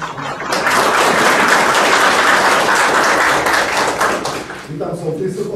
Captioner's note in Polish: oklaski